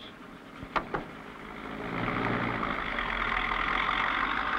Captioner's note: engine rumbling